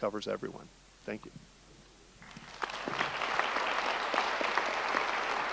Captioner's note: audience applauding